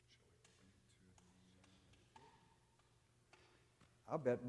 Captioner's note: faintly speaking